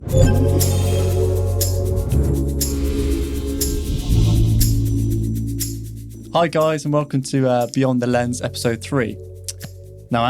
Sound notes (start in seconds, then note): 0.0 ethereal music; 0.0 logo chiming